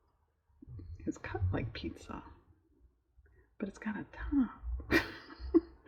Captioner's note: laughs